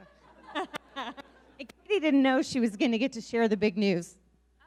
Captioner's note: laughing